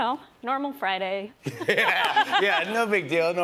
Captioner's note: laughter